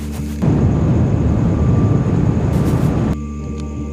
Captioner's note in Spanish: Sonido de Mochila Propulsora